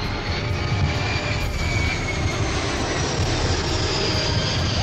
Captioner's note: airplane engines sound